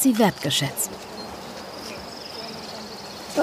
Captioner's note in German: Vogelgezwitscher